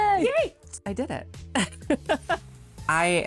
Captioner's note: laughs